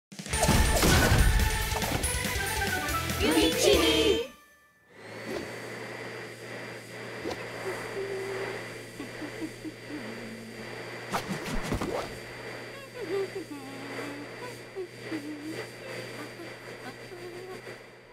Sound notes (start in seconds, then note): 4.9 fluctuating vacuum cleaner sounds; 4.9 Weiss humming